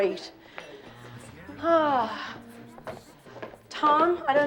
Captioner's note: sighs